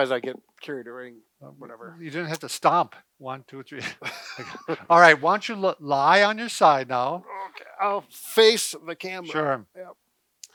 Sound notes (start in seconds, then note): 3.8 both laugh